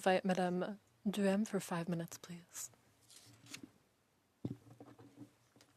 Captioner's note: speaking French